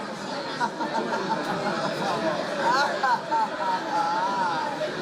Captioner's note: eskul laughs